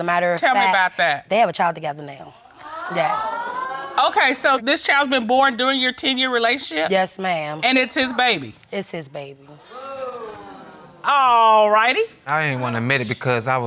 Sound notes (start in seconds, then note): 3.2 audience gasps